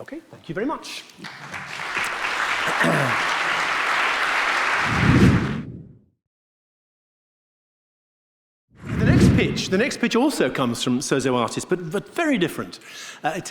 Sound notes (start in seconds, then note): 1.1 audience clapping; 4.9 air swooshing; 8.8 air swooshing